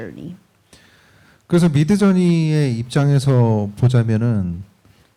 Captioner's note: speaking korean